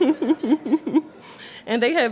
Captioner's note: laughter